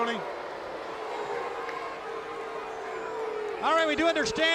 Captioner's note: crowd cheering